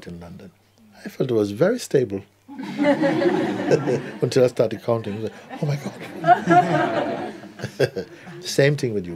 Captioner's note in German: Lachen